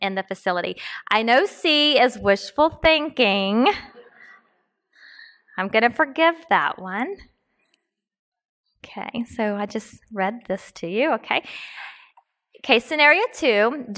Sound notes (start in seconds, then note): 4.8 laughs